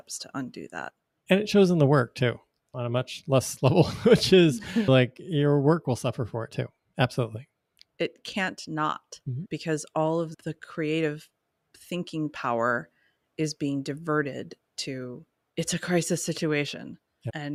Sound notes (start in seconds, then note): 3.6 chuckles